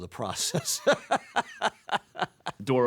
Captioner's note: laughs